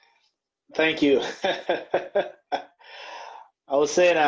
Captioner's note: laughs loudly